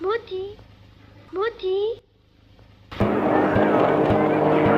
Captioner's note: speaking foreign language